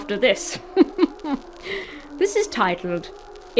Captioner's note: chuckles ominously